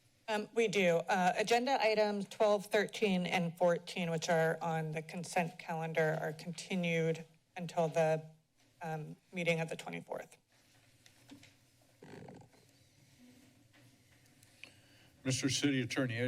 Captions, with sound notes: - Um, we do. Uh, agenda items 12, 13, and 14 which are on the consent calendar, are continued until the, um, meeting of the 24th. [silence] - Mr. City Attorney,